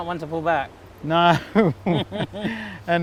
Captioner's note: laughs